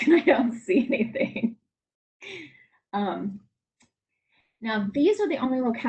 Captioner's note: laughs